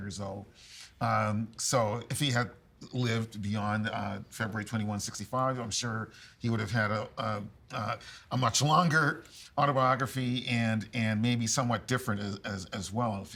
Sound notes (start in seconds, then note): none